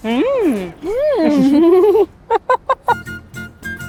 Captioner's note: laughs; giggles; bright instrumental music